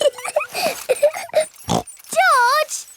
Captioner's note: laughs and snorts